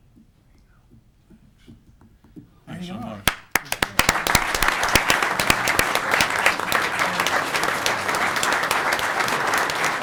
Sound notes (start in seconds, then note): 3.2 audience clapping